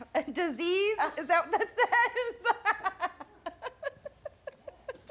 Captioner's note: laughs